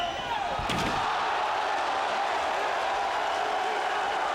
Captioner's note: crowd cheers